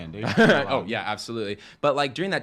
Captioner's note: chuckles